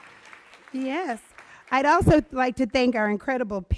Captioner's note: applause